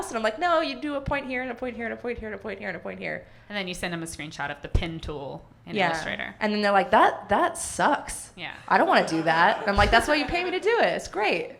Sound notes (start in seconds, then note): 8.7 audience laughing